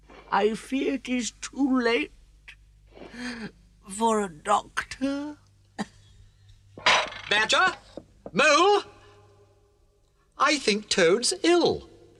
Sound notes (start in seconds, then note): 3.0 gasps softly; 5.8 coughs weakly; 6.8 dishes clank